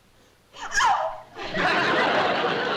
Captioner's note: yelps